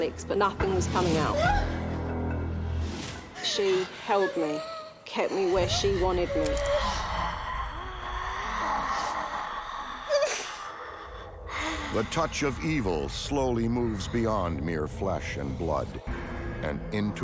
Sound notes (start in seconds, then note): 10.4 whimpers